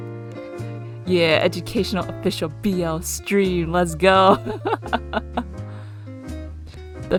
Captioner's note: laughs